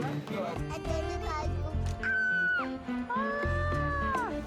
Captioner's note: mumbles, high pitched cry; repeats high pitched cry